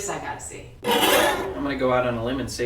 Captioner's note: scary scraping